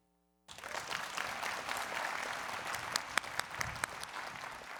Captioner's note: people clapping